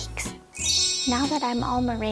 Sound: chimes

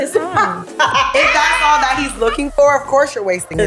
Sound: laughing

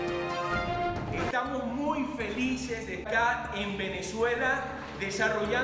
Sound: speaking in foreign language

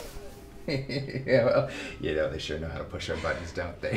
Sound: laughing

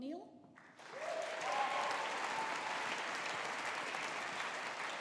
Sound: audience applauding

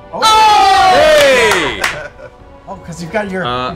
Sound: cheering

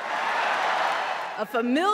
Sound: applause; cheering

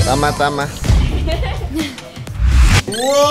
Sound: chuckles

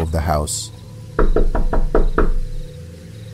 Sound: knock knock knock

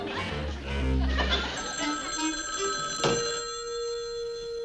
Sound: telephone rings

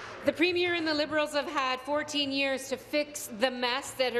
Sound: applause

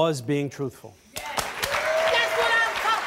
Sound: cheering

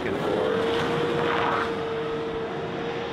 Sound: engine revs

